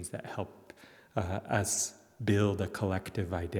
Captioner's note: none